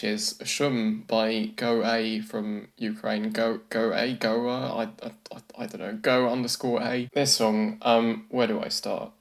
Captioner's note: stammers